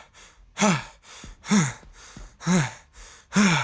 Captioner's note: panting